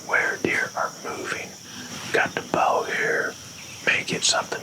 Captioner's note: whispering